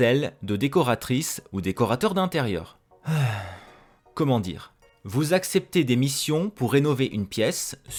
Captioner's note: sigh